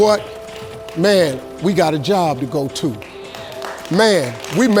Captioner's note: audience applauds